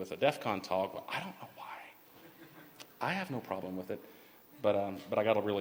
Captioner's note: laughter